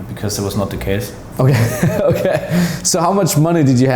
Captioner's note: laughing